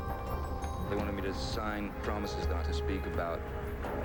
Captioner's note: Johnny Depp's voice over